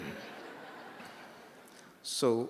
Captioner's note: laughter